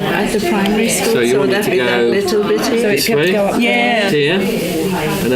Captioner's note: participant chatter